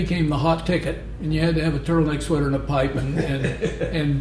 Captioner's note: laughter